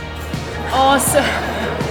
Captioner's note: laughs